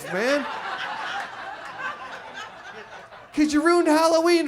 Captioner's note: audience laughs